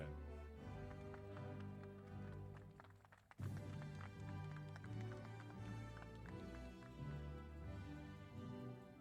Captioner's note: applause